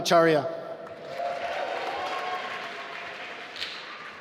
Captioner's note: applause